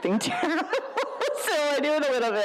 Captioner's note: laughs